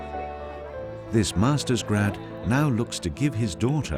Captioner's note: voiceover